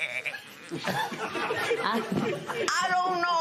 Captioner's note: laughter